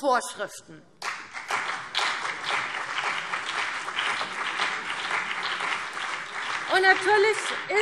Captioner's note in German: Beifall CDU und BÜNDNIS 90/DIE GRÜNEN